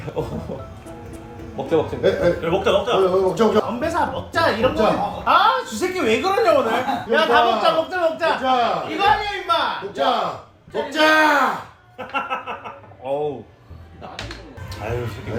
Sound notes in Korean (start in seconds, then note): 0.0 쓴 웃음